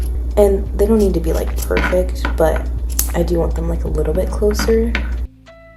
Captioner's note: scissors cut